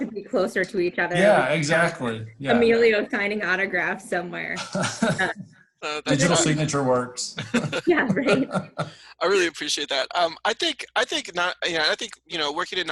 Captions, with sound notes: to be closer to each other. - Yeah, exactly, yeah. - Emilio signing autographs somewhere. (laughs) - A digital signature works. (laughs) - Yeah, right. - I really appreciate that. I think, you know, working in